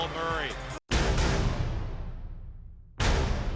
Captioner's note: cheering